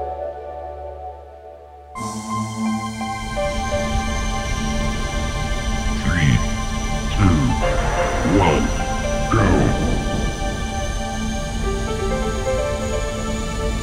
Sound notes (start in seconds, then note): 0.1 calm music ends; 2.3 bright music; 2.3 ships whirring